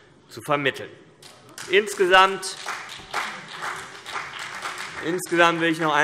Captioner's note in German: Beifall CDU und BÜNDNIS 90/DIE GRÜNEN